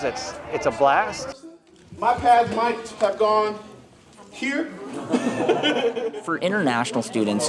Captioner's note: laughs